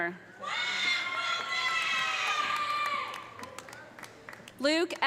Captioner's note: audience cheering; audience applauding